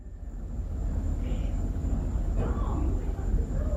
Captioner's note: mysterious voice in background